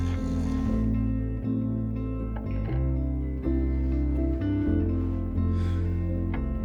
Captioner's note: gentle music; crickets chirping